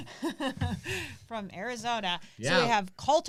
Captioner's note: laughs